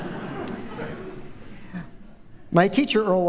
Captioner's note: laughter